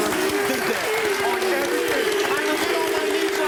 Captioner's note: cheering